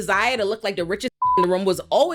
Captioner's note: beep